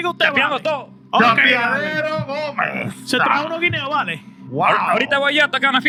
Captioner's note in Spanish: Hablando español